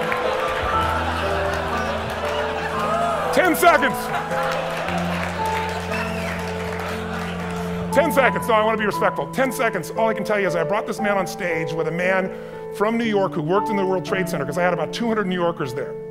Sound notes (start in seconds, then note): 8.4 audience exclaiming and laughing; 9.5 voiceover